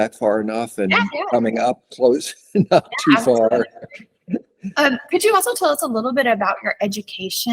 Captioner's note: laughs